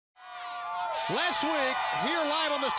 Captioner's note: crowd chatter